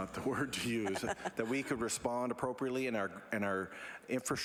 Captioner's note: laughter